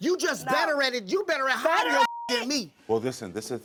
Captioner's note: beep